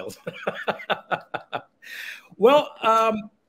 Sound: laughing

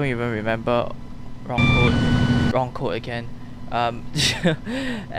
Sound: beeps

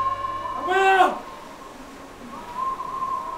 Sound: Manjesha screams

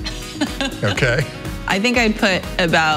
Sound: laughing

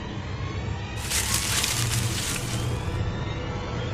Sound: leaves rustling

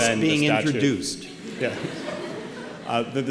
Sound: laughter

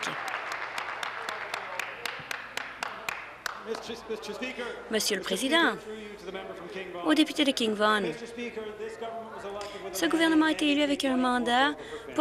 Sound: some Applause

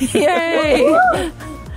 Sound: group laughs

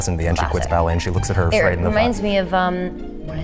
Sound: gasping

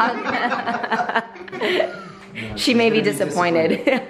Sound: laughter

